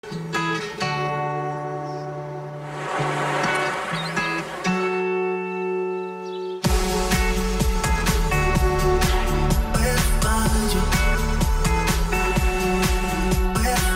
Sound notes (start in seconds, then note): 0.0 instrumental guitar music; 2.5 ocean roars